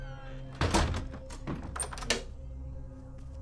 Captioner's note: Door creaks closes; Door locks